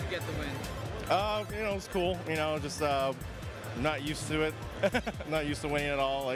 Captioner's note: laughs